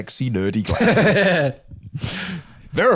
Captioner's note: laughs